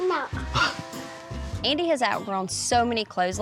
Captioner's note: laughs